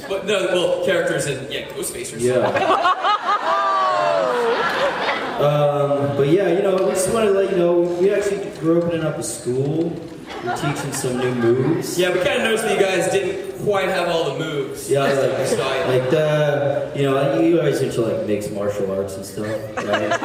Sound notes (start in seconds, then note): 2.3 laughs